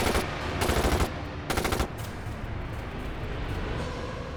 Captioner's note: chilling music; gun firing